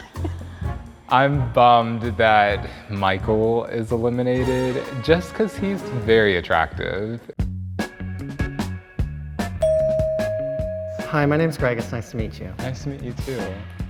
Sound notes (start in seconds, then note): 0.0 laughs; 0.0 chuckles; 7.6 upbeat music; 9.6 bell dings